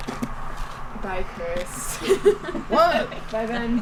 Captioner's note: laughs